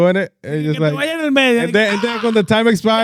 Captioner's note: speaking In Foreign Language